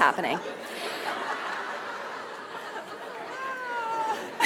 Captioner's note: audience laughs